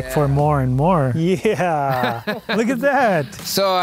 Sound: laughing

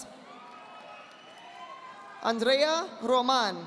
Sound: audience applauding

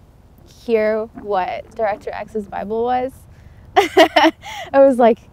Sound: laughs

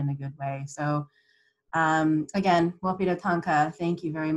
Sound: non-english speech

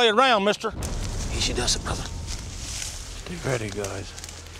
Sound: whispering

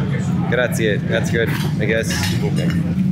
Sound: speaking foreign language

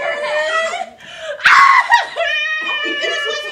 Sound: crying monkey

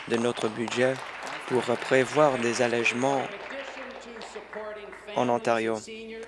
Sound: applause

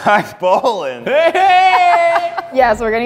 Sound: laughter

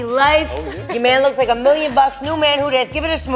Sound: laughing

